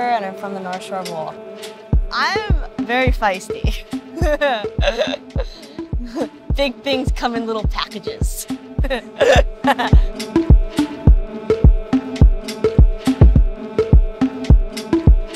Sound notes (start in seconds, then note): 4.1 laughing; 8.8 laughing; 10.5 upbeat music